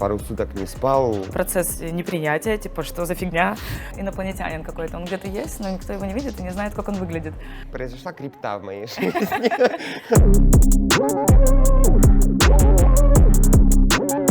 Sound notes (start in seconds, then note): 8.9 laughing